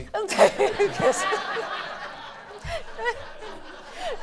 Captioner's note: laughing